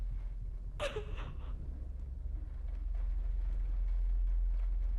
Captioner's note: Catherine crying